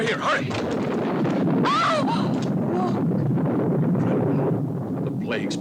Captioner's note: thunder rumbles; Corinne gasps